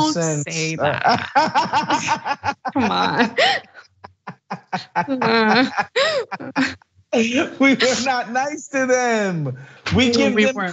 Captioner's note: laugh